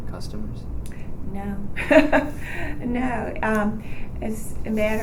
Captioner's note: laughs